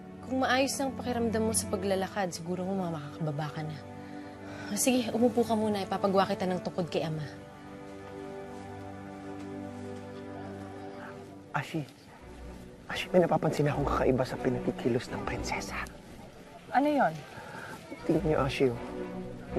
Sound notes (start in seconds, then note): 11.3 whispers